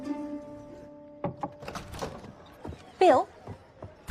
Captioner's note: knocking